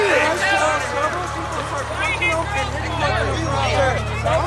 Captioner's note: crowd chatters